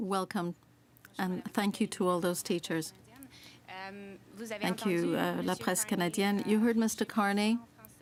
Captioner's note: speaking french